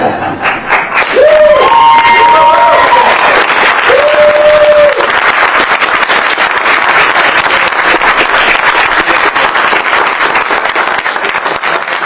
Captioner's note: applause